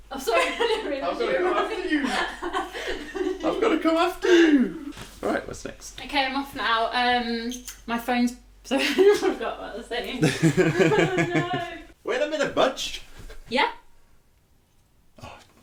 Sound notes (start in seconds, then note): 10.1 laughing